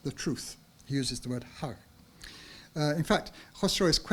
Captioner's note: speaks in foreign language